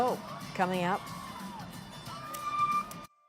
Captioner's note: cheers and Applause